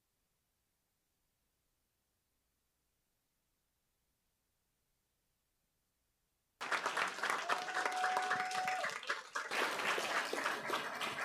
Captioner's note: cheers and applause